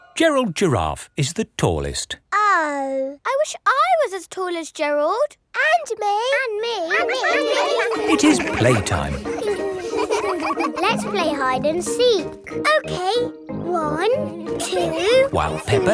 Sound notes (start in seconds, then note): 6.9 all laughing; 9.4 all giggling